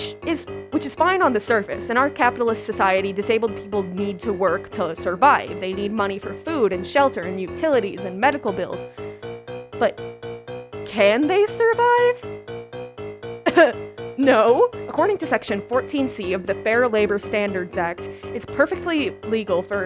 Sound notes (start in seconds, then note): 13.5 laughs